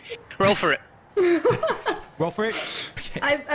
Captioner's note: laughs